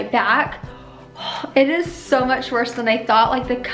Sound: gasps

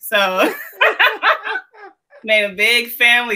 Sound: laughs

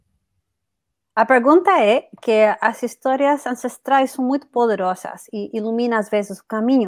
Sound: speaks portuguese

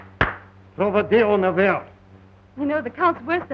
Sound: speaking russian

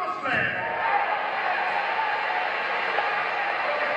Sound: crowd cheers

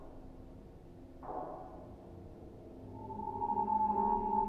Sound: eerie echoing sounds

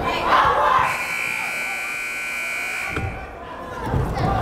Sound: buzzer

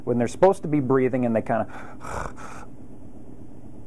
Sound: snoring

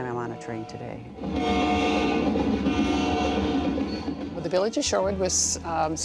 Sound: train whistles

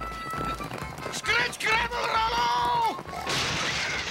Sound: stammers

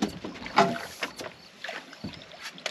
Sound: fish splashing

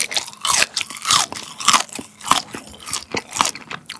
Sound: crunchy!

